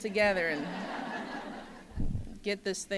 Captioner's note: laughter